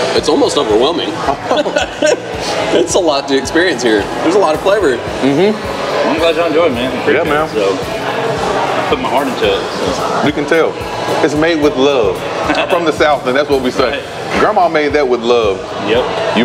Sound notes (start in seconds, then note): 1.4 laugh